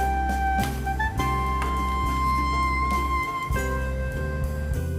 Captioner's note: applause